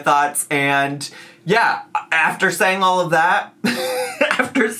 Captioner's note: laughs